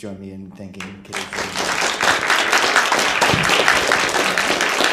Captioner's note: applause